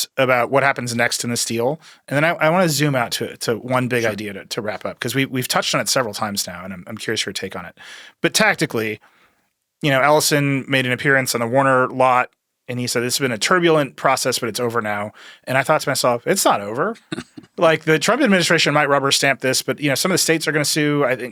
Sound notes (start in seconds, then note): 16.9 chuckles